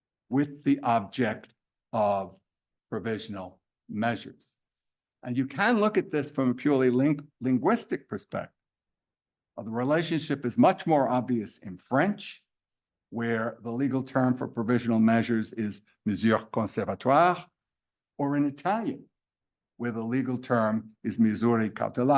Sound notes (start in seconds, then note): 16.1 speaking French; 20.8 speaking Italian